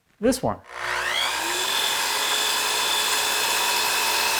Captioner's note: whirring